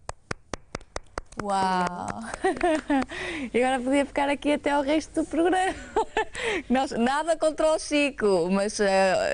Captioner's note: laughter